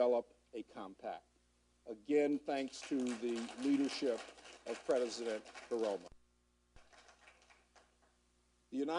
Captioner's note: applause